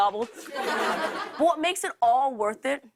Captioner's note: laughter